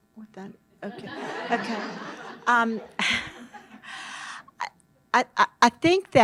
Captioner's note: audience laughs